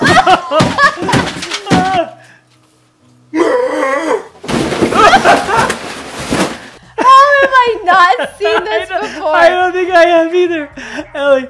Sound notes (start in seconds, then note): 0.0 both laugh; 3.4 roars and crashes through table; 4.9 both laugh; 10.9 laughs